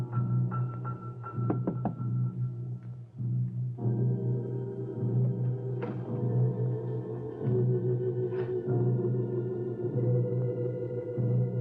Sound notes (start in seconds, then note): 1.4 door knocking; 6.6 suspenseful orchestral music continues